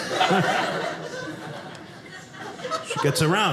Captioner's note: audience laughing